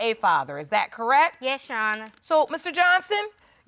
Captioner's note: none